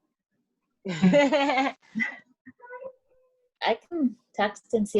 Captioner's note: all laugh